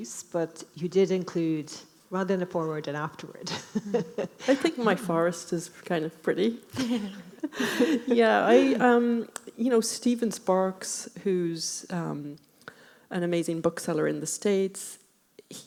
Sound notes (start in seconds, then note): 3.4 laughing; 6.7 laughing